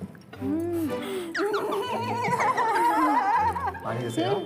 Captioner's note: laughing